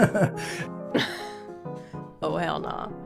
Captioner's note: laughs